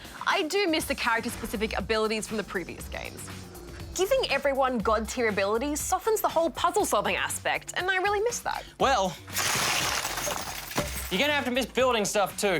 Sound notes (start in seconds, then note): 9.6 clatter!